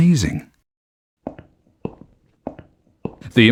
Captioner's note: footsteps